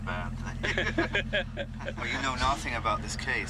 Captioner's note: laughing